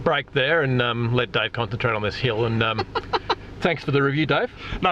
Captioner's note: laughs